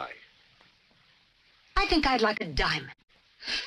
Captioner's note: laughs